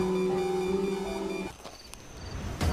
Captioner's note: electric Buzzing